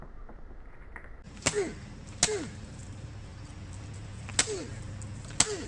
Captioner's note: grunting